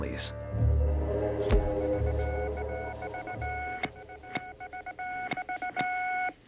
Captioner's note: suspenseful music; electronic beeping